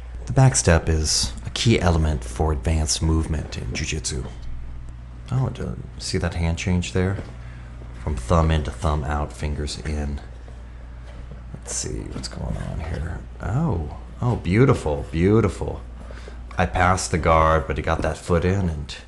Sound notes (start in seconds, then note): none